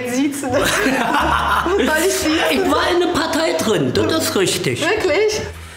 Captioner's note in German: lacht laut